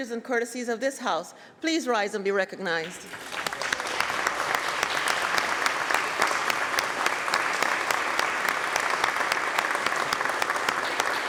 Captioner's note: applause